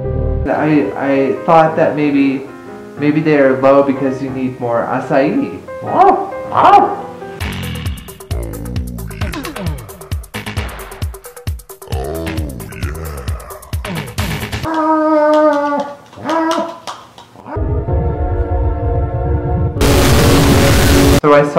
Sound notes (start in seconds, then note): 15.3 whining; 17.5 spooky music